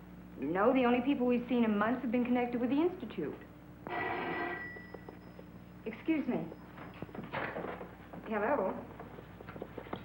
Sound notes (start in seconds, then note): 3.8 phone ringing